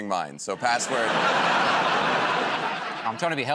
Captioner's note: laughter